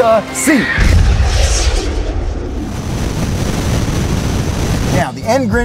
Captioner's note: explosion rocket sound